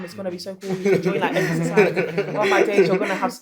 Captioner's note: laughter